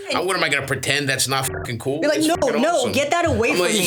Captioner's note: beeps